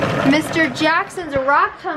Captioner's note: tumbler humming